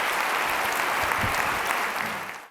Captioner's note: applause